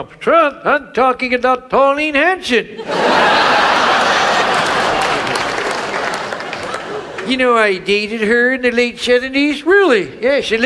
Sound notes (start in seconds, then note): 2.7 audience laughs